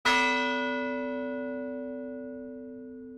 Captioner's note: bell chime